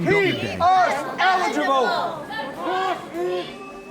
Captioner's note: protesters chanting